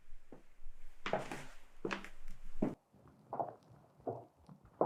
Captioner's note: footsteps tapping